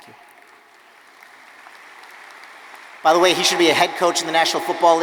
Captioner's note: audience applauding